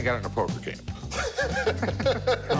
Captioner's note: laughter